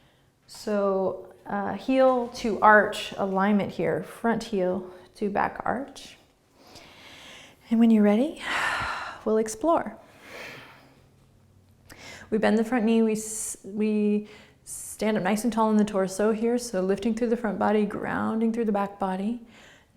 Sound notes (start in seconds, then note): 10.1 exhaling